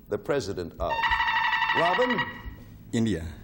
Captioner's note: buzzer beeping